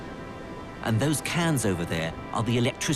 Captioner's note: voiceover